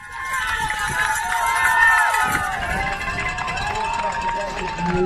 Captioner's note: crowd applauding